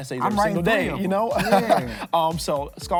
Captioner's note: laughing